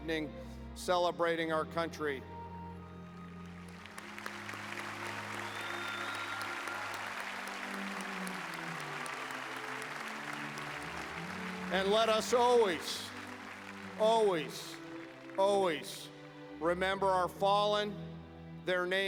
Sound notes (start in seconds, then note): 6.2 applause